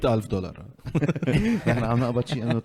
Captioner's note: laughs